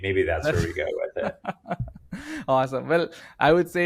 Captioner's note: laughing